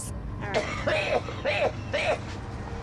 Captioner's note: coughing